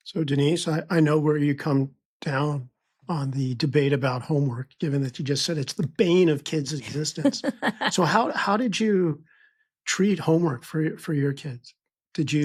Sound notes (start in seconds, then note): 6.7 chuckles